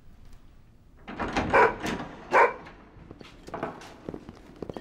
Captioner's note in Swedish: skäller